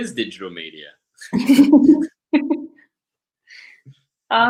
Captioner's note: both laugh